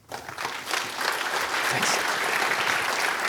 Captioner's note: applause